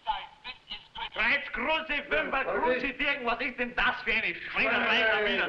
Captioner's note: shouting in foreign language